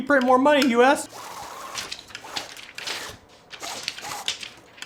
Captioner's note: machine whirs